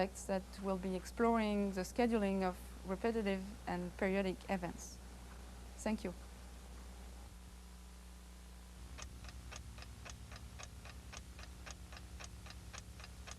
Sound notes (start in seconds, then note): 8.9 clock ticking